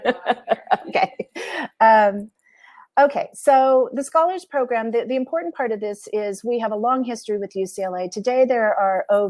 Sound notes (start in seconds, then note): 0.0 laughter